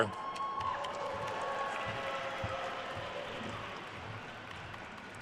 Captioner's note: attendees cheering and applauding